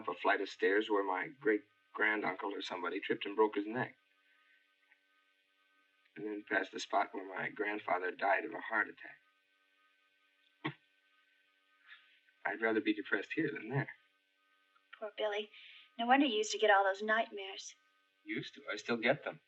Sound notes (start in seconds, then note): none